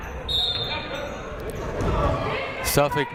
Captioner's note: whistle blows